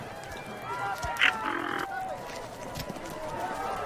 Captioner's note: squawking